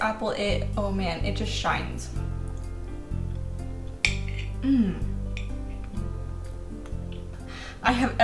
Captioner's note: emphatic mmm